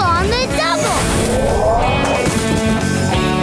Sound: howling

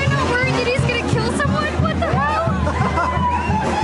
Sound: laughter

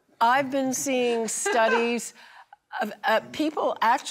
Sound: laughing

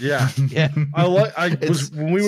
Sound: chuckles

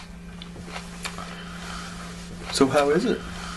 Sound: breaths

